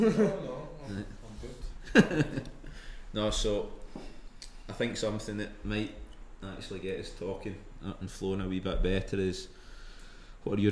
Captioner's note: laughs